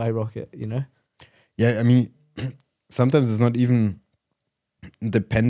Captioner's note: clears throat